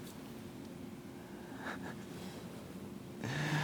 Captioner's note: laughs